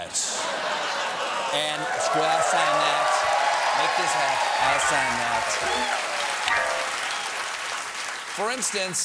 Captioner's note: laughter; applause